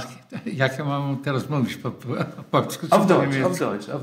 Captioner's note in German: wechselt ins Polnische